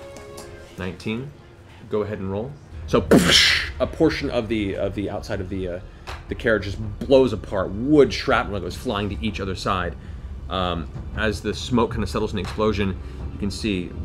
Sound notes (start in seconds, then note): 3.1 explosion